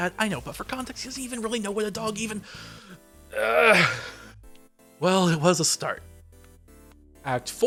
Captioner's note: groan